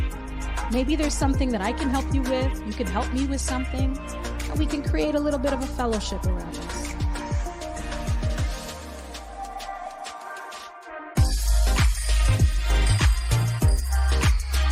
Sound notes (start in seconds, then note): 6.3 faintly speaking; 11.5 upbeat music